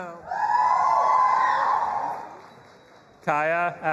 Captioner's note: audience applauding and cheering